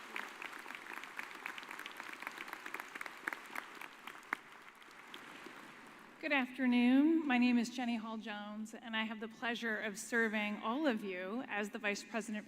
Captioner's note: applause